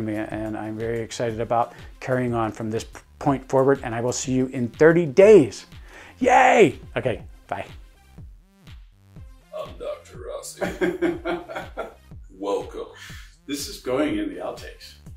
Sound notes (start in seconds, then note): 9.3 in a deep voice; 10.5 laughing